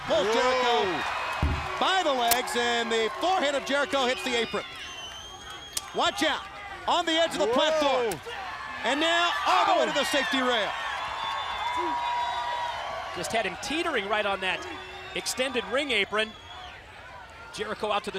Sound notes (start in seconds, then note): 12.0 crowd cheering